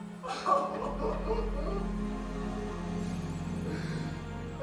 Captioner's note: Robert crying